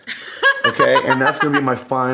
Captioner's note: laughing